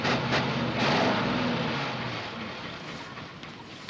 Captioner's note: car chugging